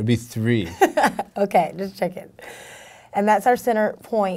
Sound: laughing

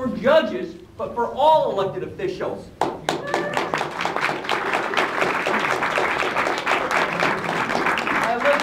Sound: applause

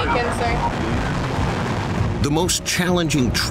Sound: radio crackling

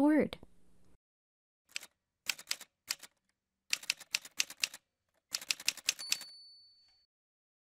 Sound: typewriter sounds

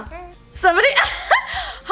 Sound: laughs

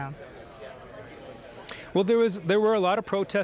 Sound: people chattering

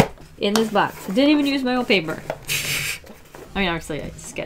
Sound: laughs

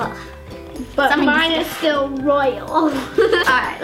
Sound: laughs

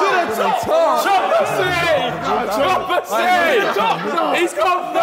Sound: all shouting and laughing

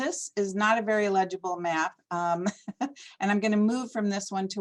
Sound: laughter

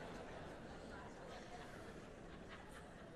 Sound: laughter

